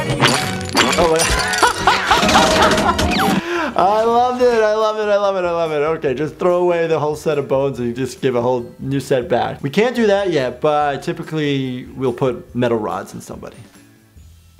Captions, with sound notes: (laughter) - I love it. I love it. - I love it. I love it. Okay, just throw away the whole set of bones and you just give a whole new set back. We can't do that yet, but typically we'll put metal rods in somebody.